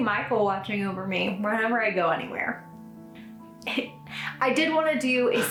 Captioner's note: laughs